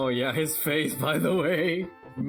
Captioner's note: chuckling